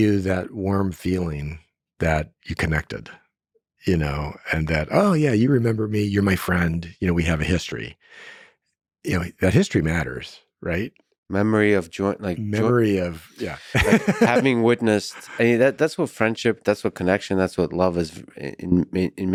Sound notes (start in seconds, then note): 13.4 laughs